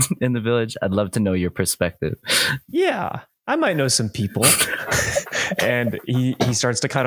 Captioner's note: laughter